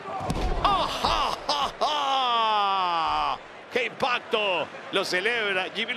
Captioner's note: laugh